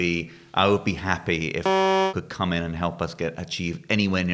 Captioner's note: beep